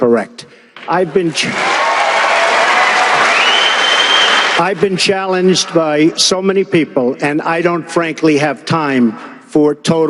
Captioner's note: cheering interrupting